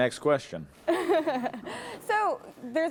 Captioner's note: interviewer laughs